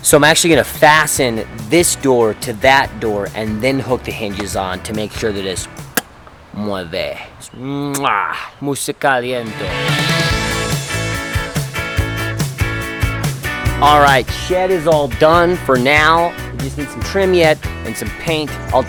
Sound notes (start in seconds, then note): 6.8 speaks foreign language; 8.8 speaks foreign language; 10.1 upbeat music